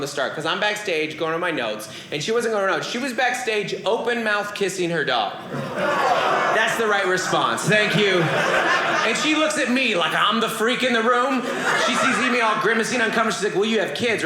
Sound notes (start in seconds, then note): 8.1 audience laughing